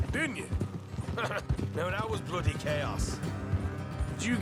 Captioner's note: laughs